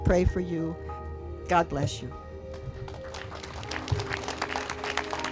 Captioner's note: audience applauds